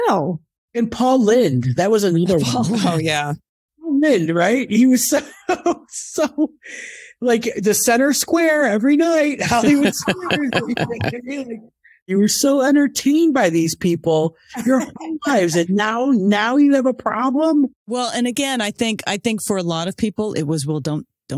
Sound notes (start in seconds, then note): 6.0 laughs